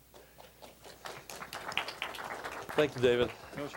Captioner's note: applause